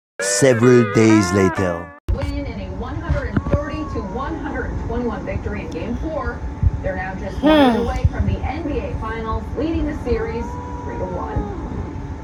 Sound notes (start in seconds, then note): 3.0 growls